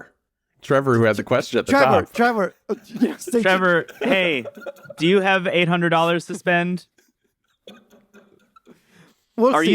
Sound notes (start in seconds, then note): 7.7 laughs